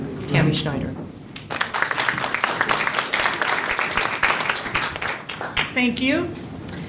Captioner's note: applause